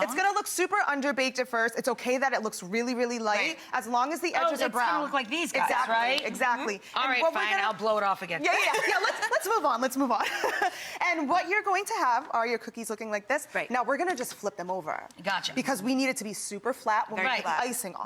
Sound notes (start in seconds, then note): 8.5 laughs